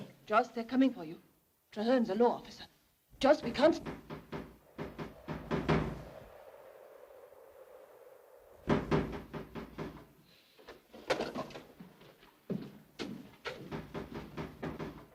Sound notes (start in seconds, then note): 4.0 knock at door